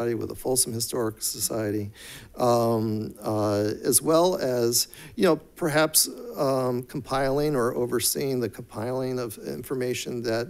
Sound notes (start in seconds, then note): none